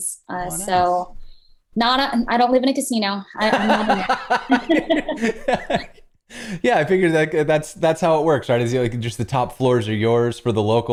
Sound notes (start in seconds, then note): 3.4 laughter